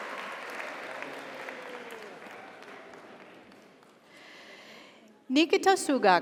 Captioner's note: audience cheers; audience applauds